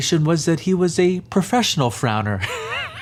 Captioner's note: laughs